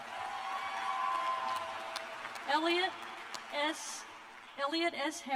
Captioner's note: cheers and applause